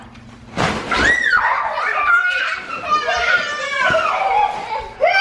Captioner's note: kids laughing